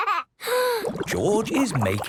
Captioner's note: inhales deeply, water bubbling